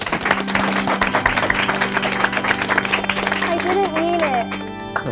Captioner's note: group claps